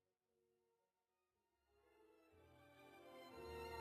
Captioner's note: speaking French